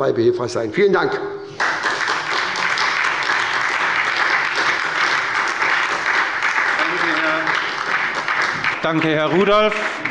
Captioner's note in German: Beifall bei der SPD